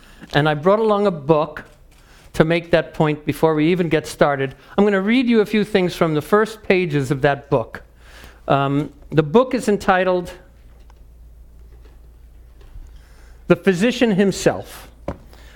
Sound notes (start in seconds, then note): none